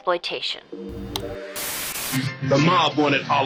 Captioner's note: gentle music; static hisses